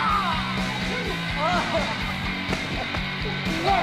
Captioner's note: grunts in pain